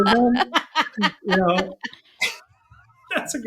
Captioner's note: laughing